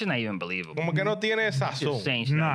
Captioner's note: speaking In Foreign Language